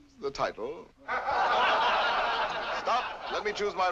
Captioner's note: audience laughs